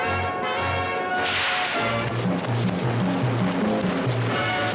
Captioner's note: whip cracks